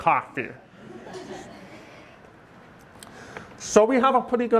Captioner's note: audience chuckling